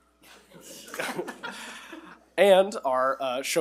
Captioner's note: attendees laugh